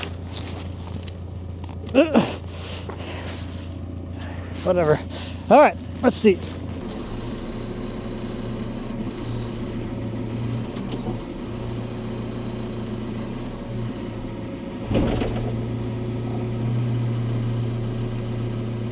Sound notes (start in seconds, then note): 1.9 grunting; 8.7 vehicle humming